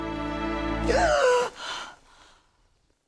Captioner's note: gasps